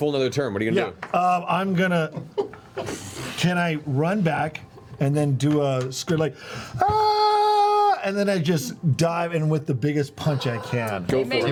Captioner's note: yelling